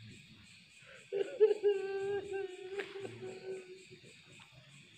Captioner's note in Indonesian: menangis